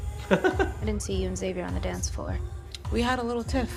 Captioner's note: chuckles